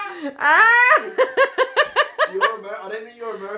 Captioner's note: laughs